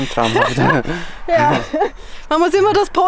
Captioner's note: laughter